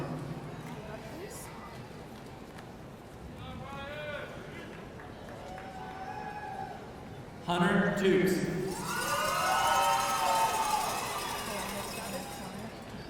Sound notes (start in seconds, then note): 8.6 audience cheering